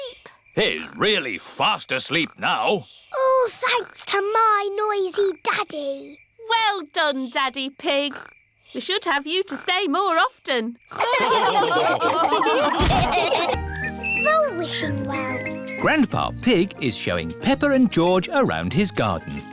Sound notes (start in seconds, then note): 10.9 all laughing